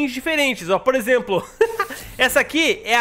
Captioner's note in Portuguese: risos